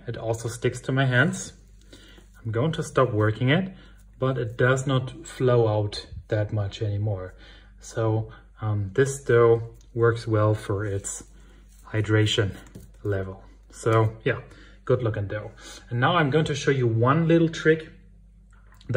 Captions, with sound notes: it also sticks to my hands. I'm going to stop working it, but it does not flour out that much anymore. So this dough works well for its hydration level. So, yeah. [German 08:24:01] And now I'm going to show you one little trick,